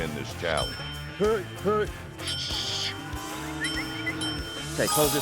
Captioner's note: dings